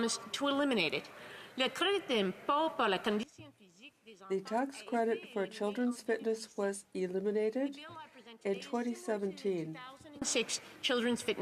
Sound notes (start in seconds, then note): 7.2 speaking French